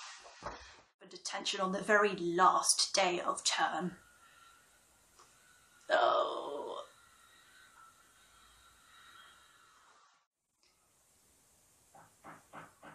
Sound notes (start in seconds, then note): 6.8 drilling